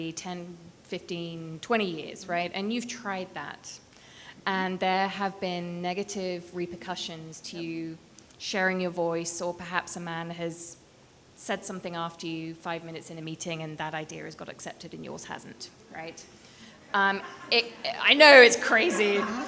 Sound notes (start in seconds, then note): 16.8 people laughing